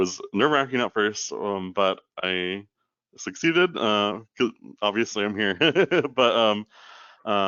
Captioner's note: chuckles